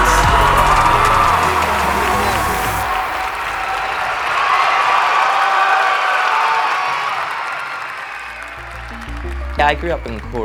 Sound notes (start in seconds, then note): 0.2 huge cheer from crowd; 2.1 cheers and applause